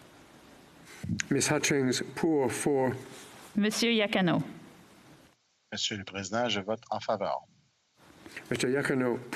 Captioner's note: speaking French